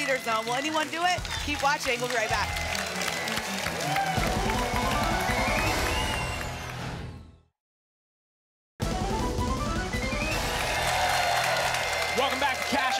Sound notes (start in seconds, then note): 2.8 applause and cheering cont; 6.6 whoosh; 9.9 applause and cheering